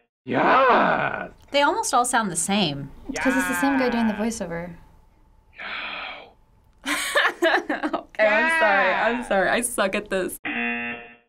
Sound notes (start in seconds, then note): 4.8 voiceover whispering; 10.4 buzzer